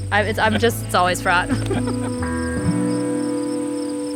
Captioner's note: laughs